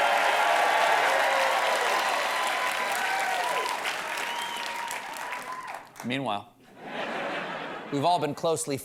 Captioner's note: cheers and applause